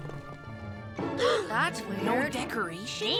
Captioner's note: both gasp